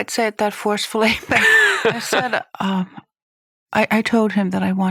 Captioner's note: laughs